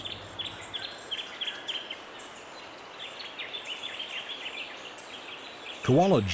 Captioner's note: birds chirping